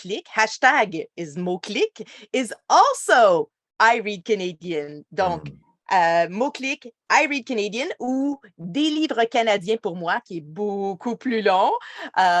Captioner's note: speaking French